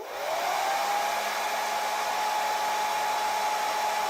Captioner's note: Secadora zumbando